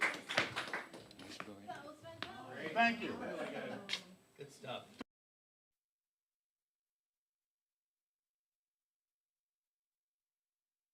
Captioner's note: applause